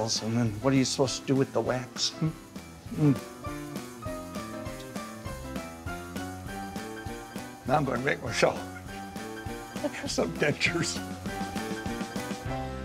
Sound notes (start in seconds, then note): 3.8 lively music; 8.9 cameraman laughing